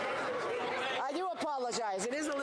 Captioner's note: speaking French